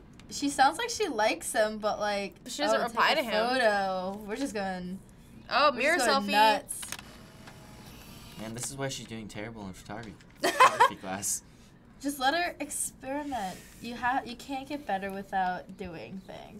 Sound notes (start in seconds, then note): 6.8 Polaroid shutter snapping; 10.4 laughing